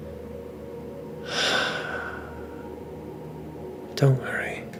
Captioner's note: sighs